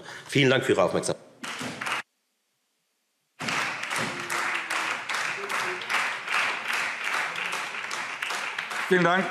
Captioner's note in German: Beifall Freie Demokraten und SPD